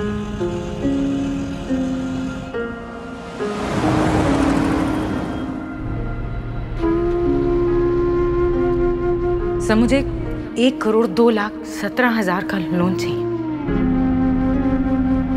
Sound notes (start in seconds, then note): 3.2 car engine racing